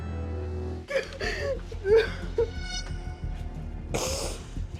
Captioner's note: sobbing